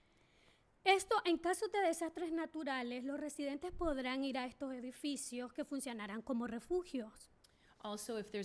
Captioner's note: speaking spanish